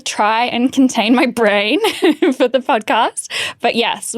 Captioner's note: chuckling